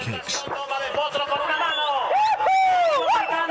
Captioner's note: Spanish spoken audio